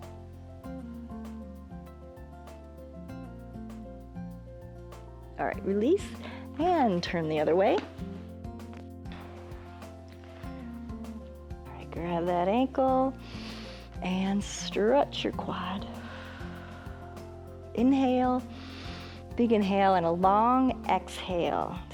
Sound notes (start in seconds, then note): 15.9 exhales; 18.5 inhales